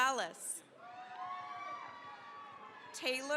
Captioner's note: cheering, applause